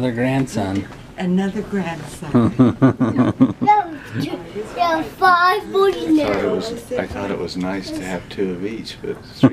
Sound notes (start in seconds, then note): 2.4 laughing